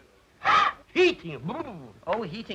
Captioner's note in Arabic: يصدر صوتًا يشبه الارتعاش